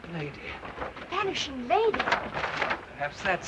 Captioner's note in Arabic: حفيف ورق